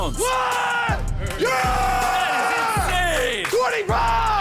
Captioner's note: screaming